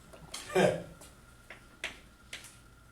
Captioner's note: laughs